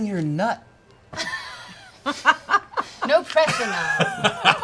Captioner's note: laughs